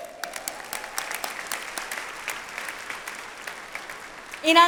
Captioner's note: audience applauds